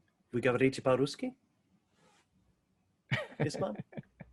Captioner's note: speaking in foreign language; laughs